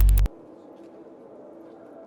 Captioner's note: glitch; humming